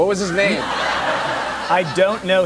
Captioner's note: laughter